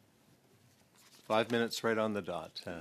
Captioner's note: speaking French